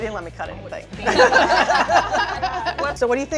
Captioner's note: all laughing